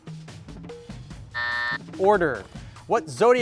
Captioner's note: timer buzzes